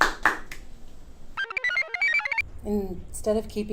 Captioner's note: computer chirps